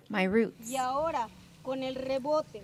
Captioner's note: speaking alternate language